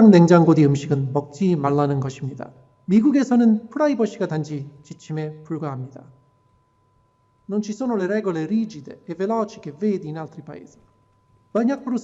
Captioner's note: non-English speech